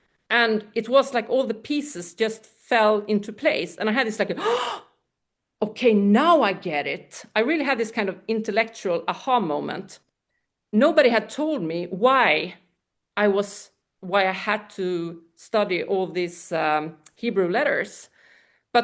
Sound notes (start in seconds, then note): 4.4 gasps